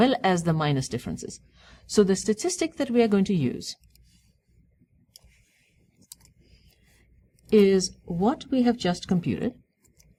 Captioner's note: pause